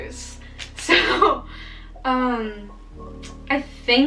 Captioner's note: laughs